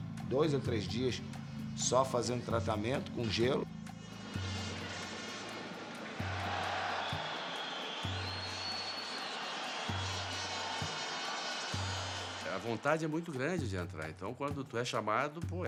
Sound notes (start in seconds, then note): 5.9 crowd cheering